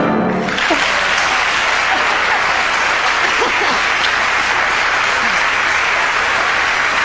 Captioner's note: audience clapping; laughs